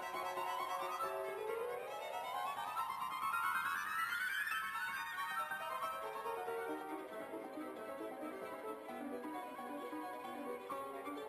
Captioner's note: speaking French